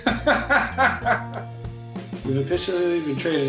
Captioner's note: laughs loudly